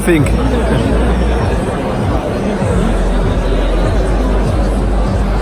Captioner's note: crowd talking loudly